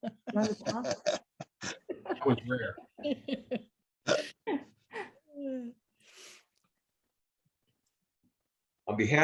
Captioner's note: laughter